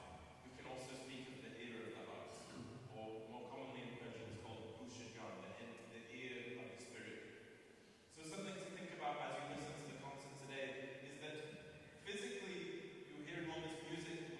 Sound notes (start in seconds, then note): 4.8 non-english speech